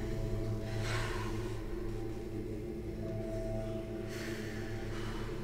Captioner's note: inhaling and exhaling